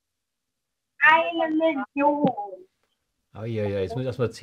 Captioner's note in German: Kinderstimme